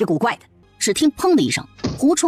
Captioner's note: bang